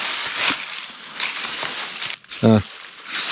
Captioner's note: leaves crunching